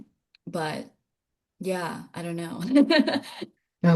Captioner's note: laughing